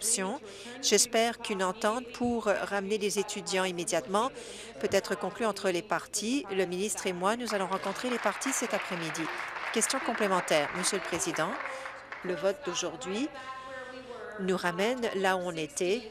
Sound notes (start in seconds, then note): 12.0 applause